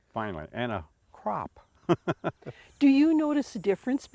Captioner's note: chuckles